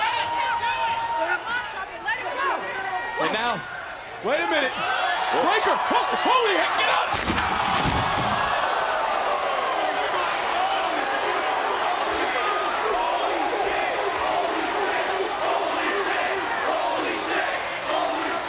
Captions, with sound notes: Come on, Ciampa, let him go! And now. Wait a minute. Breakker! Holy, get out! (crowd gasps) (chants "Holy shit")